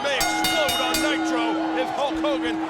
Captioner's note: bell rings